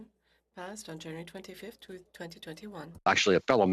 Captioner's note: speaking French